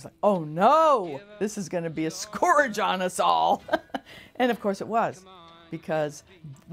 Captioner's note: laughs